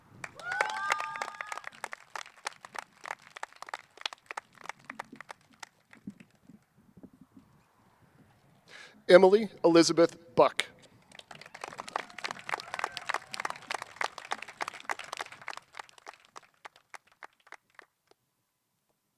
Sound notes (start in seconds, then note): 3.8 cheers and applause